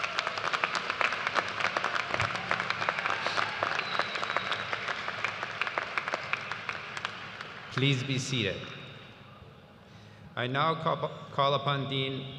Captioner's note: cheers and applause